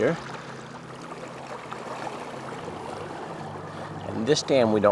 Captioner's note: water lapping gently